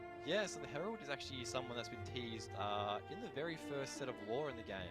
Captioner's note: none